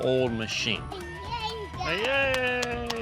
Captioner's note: babbling